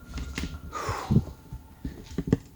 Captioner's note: sigh